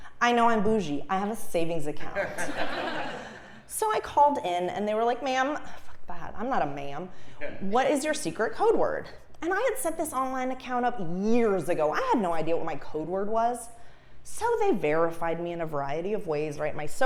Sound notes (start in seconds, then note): 2.2 laugh